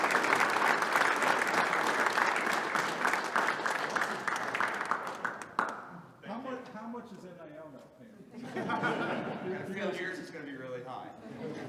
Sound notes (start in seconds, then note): 8.4 all laughing; 11.3 audience laughing